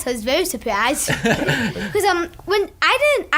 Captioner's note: laughing